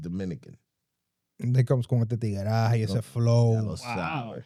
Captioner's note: speaking In Foreign Language